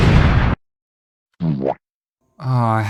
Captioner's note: boowomp